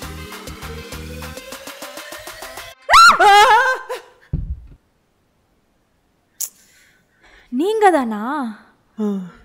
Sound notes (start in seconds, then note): 2.8 Kadhir screams; 2.8 Sindhu Screams